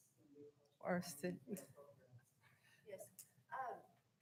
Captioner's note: speaking faintly